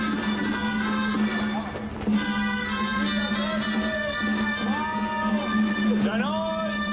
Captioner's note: man speaking native language